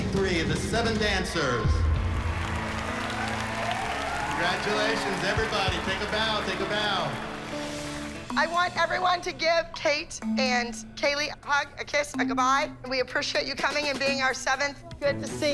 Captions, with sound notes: act number 63, "The Seven Dancers." [applause] Congratulations. Everybody, take a bow. Take a bow. I want everybody to give Kate and Kaleigh a hug, a kiss, a goodbye. We appreciate you coming and being our seventh.